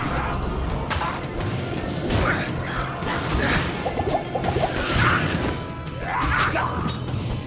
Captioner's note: weapons clanging; enemies grunting